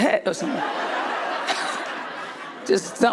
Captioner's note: crowd laughs